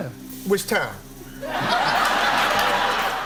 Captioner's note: laughter